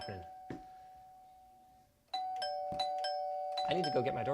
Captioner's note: doorbell ringing